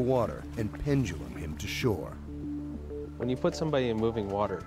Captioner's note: voiceover